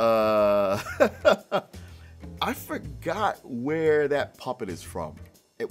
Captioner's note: Martin laughs; jazz music